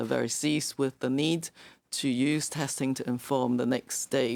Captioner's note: speaking French